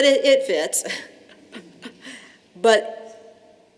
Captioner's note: laughter